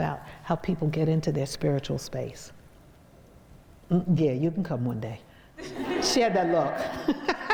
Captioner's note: crowd laughs